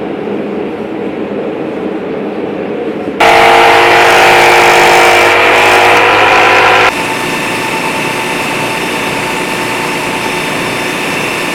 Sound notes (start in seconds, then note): 3.2 sawing sound; 7.0 grinding noise